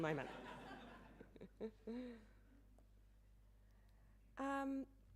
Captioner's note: audience laughing